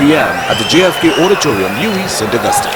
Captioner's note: wild applause and cheering for 22 seconds